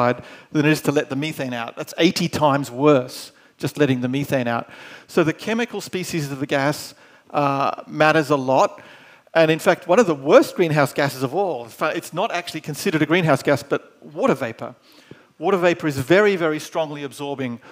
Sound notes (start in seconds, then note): none